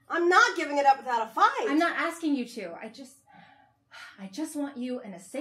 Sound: sighing

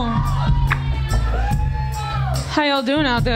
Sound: crowd cheers

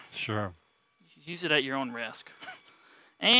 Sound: chuckles

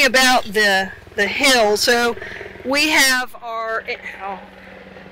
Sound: drone whirs

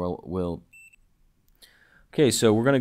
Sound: beeping

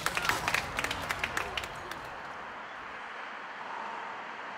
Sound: applause; highway noise

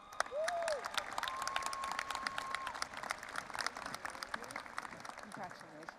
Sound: audience applauding and cheering

